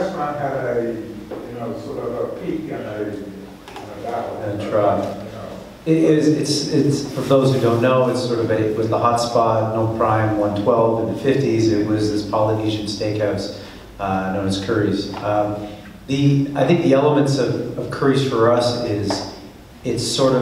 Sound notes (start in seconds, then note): 4.2 speaks away from mic